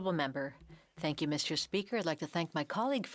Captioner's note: speaking French